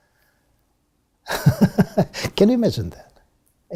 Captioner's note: laugh